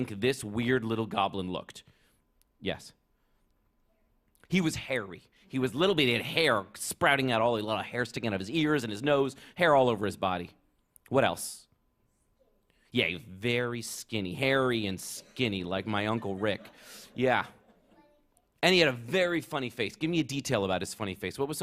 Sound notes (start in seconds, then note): 15.9 laughter